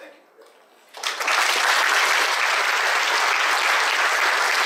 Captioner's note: audience applauding